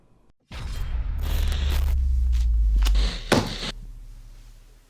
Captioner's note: signal crackling